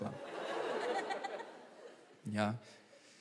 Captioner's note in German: Lachen